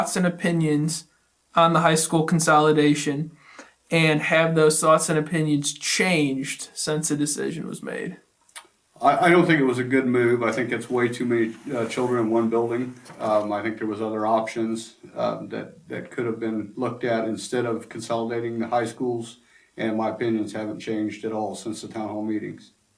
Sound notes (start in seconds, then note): 8.4 smacks lips together